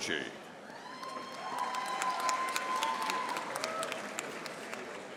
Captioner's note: audience applauding